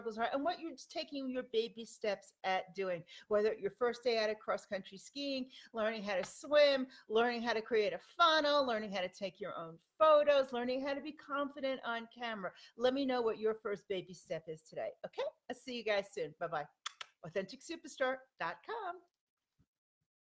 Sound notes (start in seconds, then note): 16.8 kisses